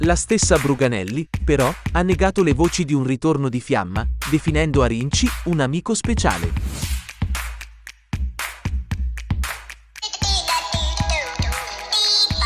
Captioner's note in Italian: Applauso